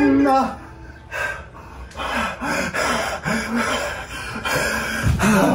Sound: heavy breathing

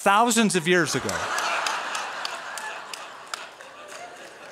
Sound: laughter

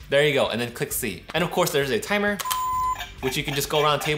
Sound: toy beeping

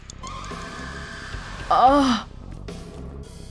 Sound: groans

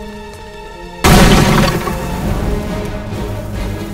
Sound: dramatic music continues; guns firing; dramatic music continues

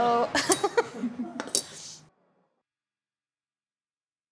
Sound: laughing

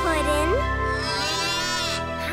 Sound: mooing

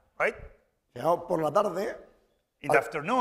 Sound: speaking spanish

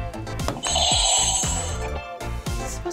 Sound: buzzer rings

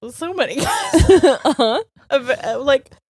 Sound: both laughing

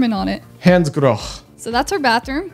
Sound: speaks in German

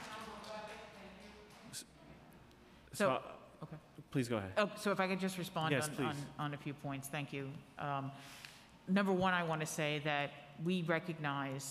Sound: applause

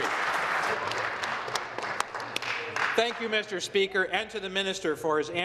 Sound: applause

